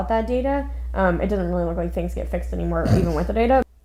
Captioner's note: snorts